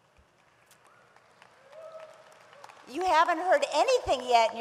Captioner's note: audience applauds